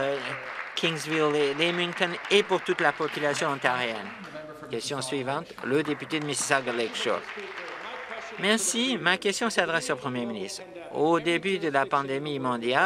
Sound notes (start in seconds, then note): 4.1 applause; 9.8 applause